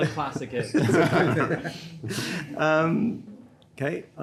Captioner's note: panel laughs